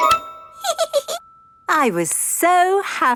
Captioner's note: giggles